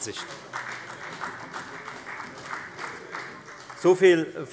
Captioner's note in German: Beifall bei der FDP und bei Abgeordneten der CDU